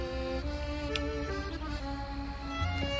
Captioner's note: kiss